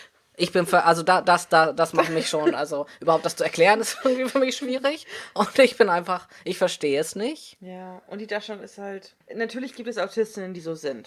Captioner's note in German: lacht